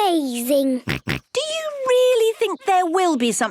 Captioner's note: snorts